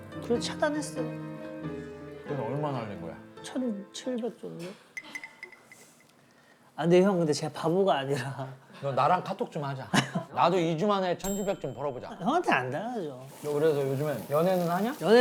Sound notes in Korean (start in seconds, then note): 4.9 정적